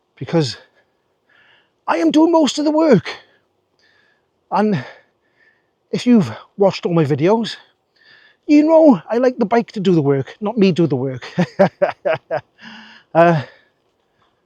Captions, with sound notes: because I am doing most of the work, and if you've watched all my videos, you know I like the bike to do the work, not me do the work. (laughs)